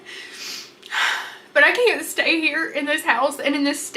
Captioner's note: exhales heavily